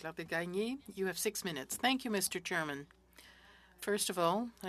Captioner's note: speaking French